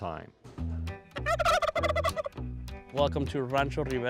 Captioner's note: turkey gobbling